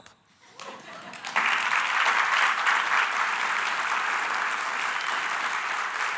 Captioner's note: audience laughing and clapping